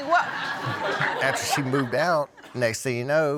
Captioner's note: audience laughing